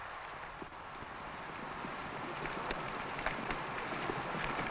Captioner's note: horse hooves pattering